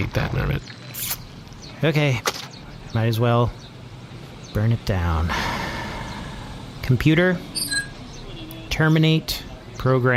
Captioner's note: sighs